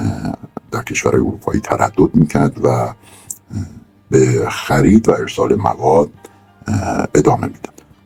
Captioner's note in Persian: صدای خرناس